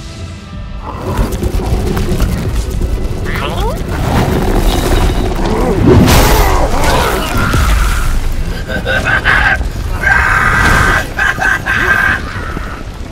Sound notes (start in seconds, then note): 5.5 Goblin Just Realizing Gravity is a Thing Noises; 7.4 glorious Goblin Death Noises